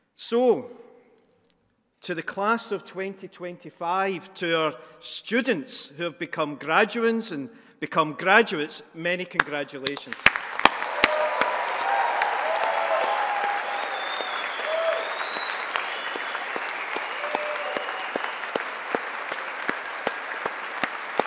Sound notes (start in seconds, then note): 10.3 all applauding; 10.6 audience cheering